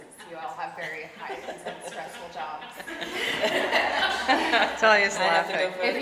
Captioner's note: laughing